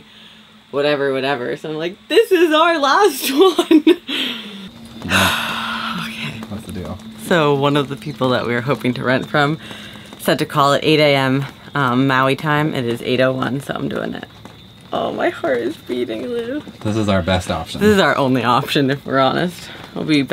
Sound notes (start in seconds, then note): 3.3 laughs; 5.0 exhales deeply